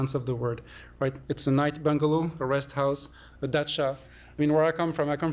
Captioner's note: non-english